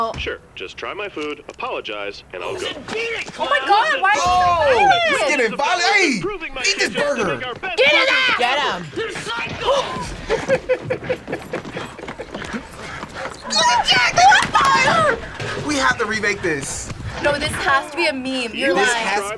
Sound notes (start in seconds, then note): 9.9 both laugh; 14.3 laughs